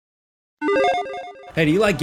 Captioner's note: electronic chiming